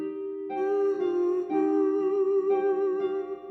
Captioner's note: humming